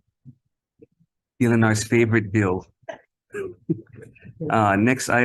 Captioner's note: several laugh